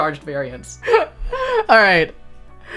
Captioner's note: laughing